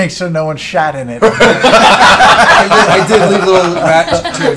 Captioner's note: laughter